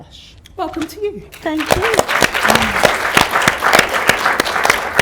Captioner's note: audience applause